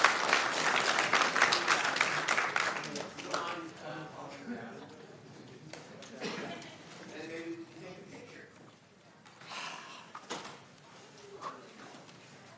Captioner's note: applause